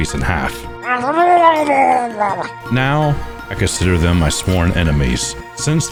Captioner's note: murlok garbling